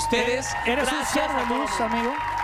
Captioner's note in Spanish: vítores